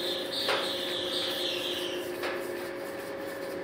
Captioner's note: squeaking, machine whirring